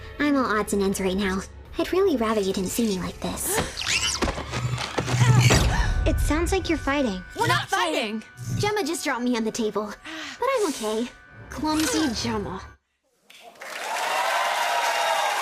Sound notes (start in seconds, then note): 3.6 gasps; 13.4 cheers and applause